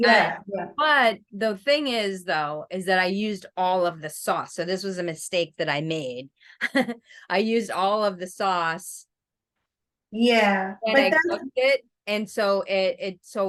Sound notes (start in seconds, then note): 7.0 laughs